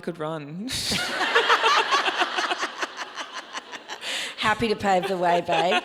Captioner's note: audience laughs